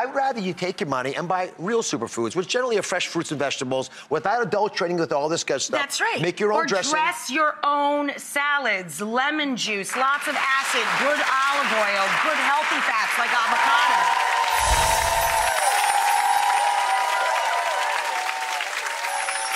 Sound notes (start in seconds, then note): 14.0 applause; 14.6 gentle tingling